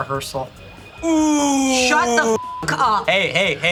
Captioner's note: beep